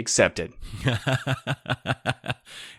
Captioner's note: laughing